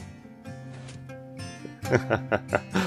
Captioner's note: chuckles